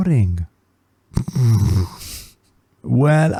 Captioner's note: laughs